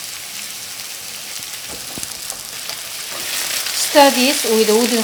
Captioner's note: sizzling